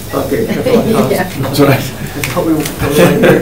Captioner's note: attendees laugh